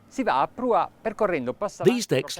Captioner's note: speaking in foreign language